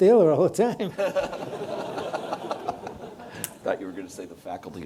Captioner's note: audience laughs